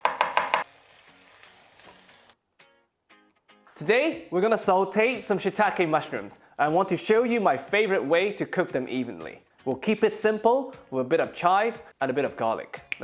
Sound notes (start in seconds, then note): 0.1 sizzling sound